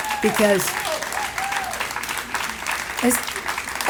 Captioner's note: applauding